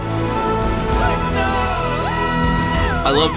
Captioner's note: shouts and whoops